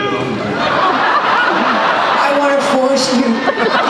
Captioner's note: laughter